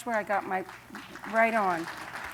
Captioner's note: applause